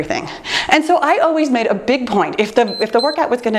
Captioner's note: timer beeps